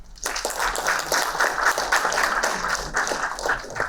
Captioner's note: applauding